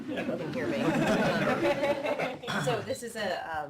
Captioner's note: laughter